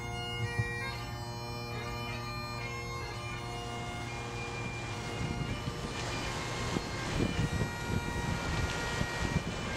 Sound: sound of waves lapping, and distant bagpipes playing

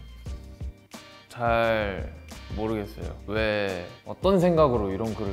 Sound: speaks Korean

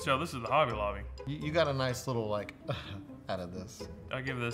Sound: chuckles

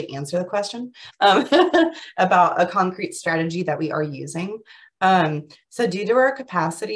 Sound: chuckles

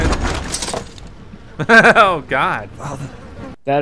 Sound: laughs

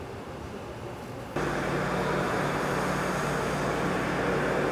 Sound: loud machine whirring

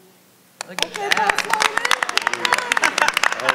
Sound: applause; laughing

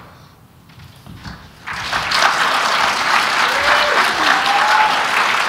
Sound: applause

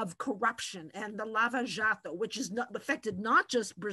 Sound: in foreign language

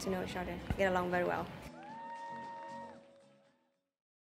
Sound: applause

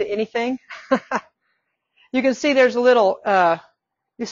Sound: laughing

